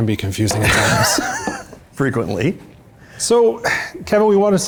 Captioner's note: laughs